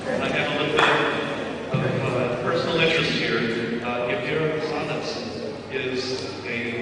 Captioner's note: none